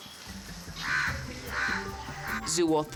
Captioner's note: birds chattering